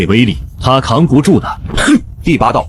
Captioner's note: scoffs